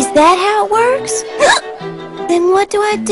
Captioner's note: hiccups